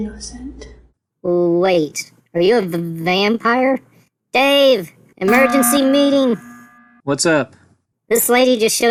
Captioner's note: buzzer